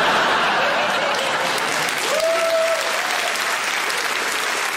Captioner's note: audience laughing; audience applauds